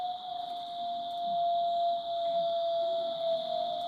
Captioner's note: wolf howls